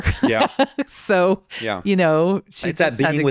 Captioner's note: laughs